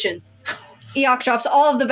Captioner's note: snicker